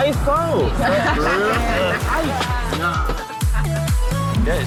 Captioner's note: woman chuckling; upbeat funky music